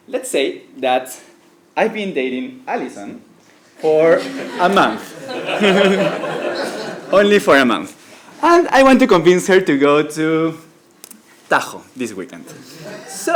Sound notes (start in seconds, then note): 3.9 laugh